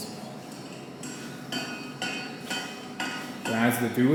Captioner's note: metal clanking